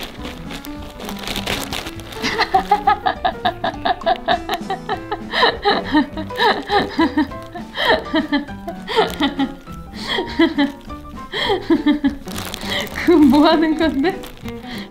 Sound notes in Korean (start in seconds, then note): 2.2 웃음 소리; 14.2 웃음